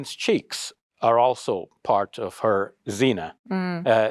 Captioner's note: speaks Arabic